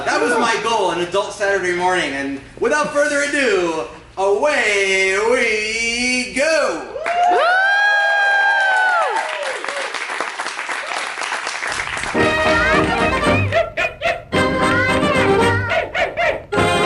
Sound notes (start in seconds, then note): 7.0 cheers; 8.2 applause